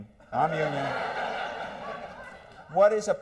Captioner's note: laughter